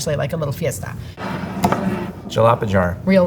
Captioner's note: jar sliding